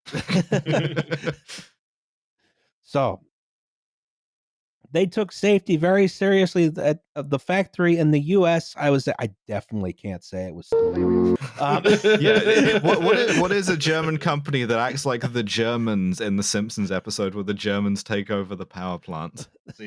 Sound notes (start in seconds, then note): 0.0 laughter; 10.7 ♩ flügelhorn ♩; 11.4 laughter